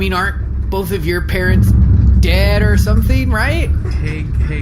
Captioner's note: Something begins rumbling behind Bargie